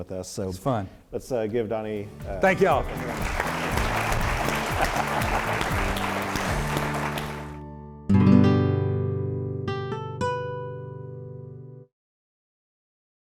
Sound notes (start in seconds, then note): 2.4 audience applauding; 8.2 bright music